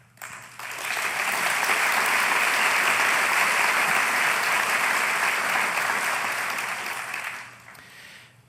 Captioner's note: applause